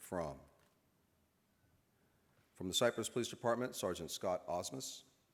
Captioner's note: none